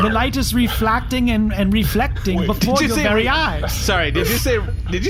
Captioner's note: confused laughter